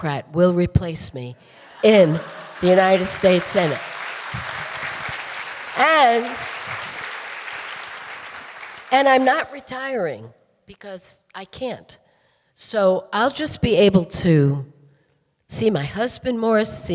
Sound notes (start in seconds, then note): 4.3 audience applauding